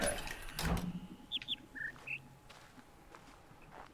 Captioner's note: bird chirps high-high-low-mid